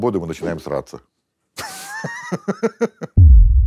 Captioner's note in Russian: смеется